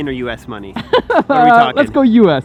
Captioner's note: laughs